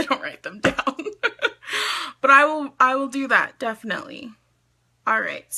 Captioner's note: laughs